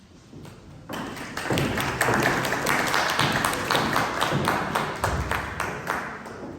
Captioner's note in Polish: głośne brawa